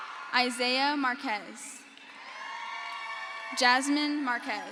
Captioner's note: crowd cheers